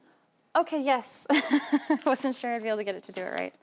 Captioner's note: laughing